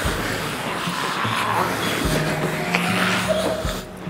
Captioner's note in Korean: 위협적인 소리가 가득 찬다